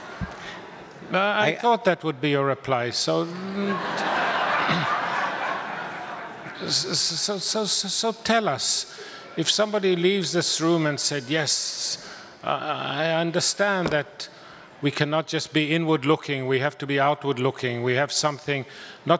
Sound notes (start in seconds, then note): 0.0 audience laughs; 3.4 more laughter